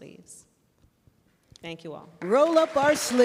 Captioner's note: applause